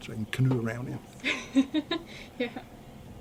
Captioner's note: laughs